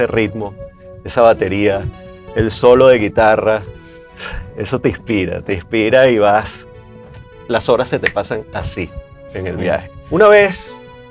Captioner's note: snap of fingers